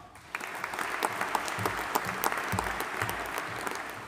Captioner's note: audience applauding